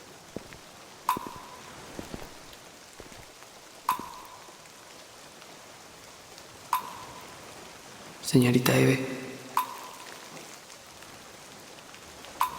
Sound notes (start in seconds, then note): 1.0 footsteps